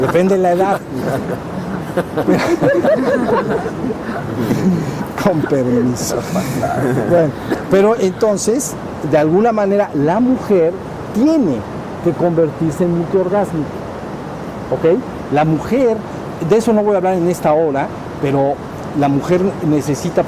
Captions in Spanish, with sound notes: depende la edad. (Risas). Con permiso... Bueno pero entonces de alguna manera la mujer tiene que convertirse en multiorgásmica ¿ok?, la mujer, de eso no voy a hablar en esta hora, pero la mujer necesita